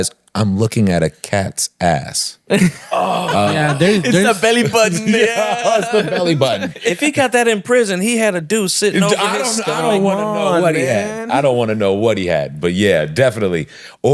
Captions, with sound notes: I'm looking at a cat's ass. (laughing) - It's the belly button, man. - Yeah, it's the belly button. - If he got that in prison, he had a dude sitting over there and telling me, I don't want to know what he had. - I don't want to know what he had, but yeah, definitely.